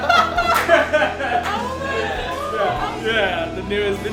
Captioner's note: laughs